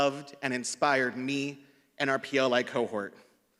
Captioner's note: none